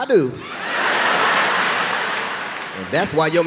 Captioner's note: audience laughing